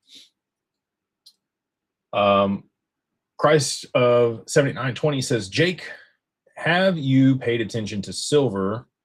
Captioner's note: snorts